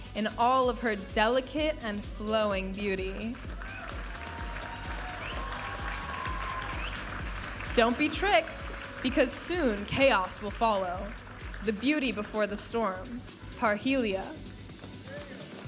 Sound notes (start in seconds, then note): 3.4 audience applauding and cheering